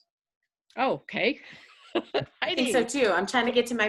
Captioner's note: laughing